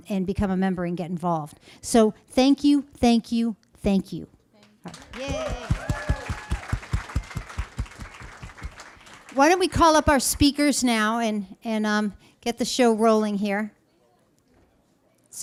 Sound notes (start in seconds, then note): 4.6 applause